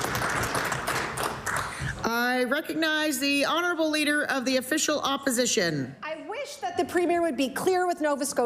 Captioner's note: applause